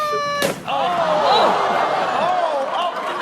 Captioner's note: audience gasps